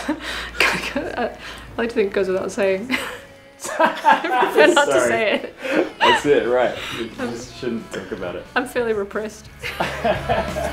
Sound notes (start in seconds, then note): 2.6 laughs; 9.6 laughs